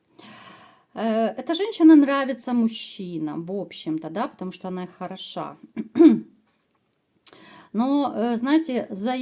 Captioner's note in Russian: откашливается